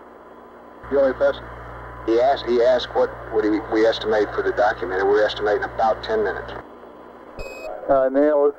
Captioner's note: mission Control Audio